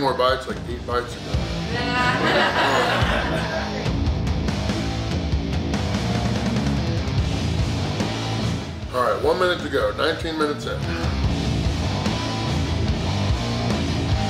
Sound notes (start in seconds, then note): 1.7 audience laughing; 4.3 upbeat rock music; 11.1 upbeat rock music